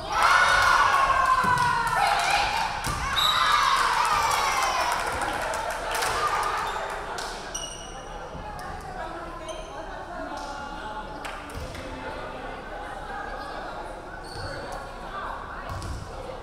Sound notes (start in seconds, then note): 0.0 crowd cheering; 3.1 referee whistling; 3.6 crowd clapping